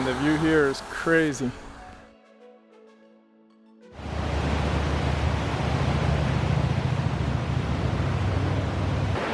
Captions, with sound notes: And the view here is crazy. (river rushing)